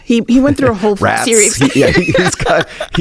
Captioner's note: laughs